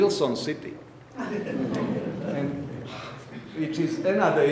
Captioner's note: audience laughing